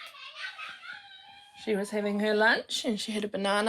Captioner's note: child yells happily